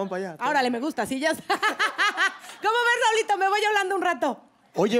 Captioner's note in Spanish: Risas